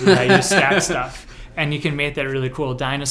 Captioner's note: laughs